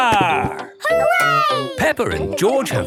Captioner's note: laughing